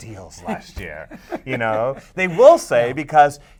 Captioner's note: chuckles